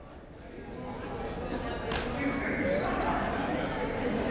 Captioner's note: chattering